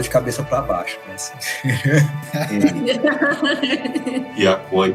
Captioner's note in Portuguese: risos